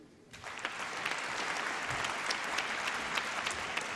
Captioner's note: applause